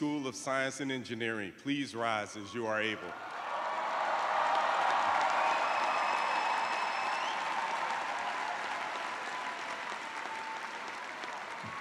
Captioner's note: cheers and applause